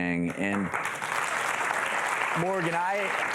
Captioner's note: audience applauds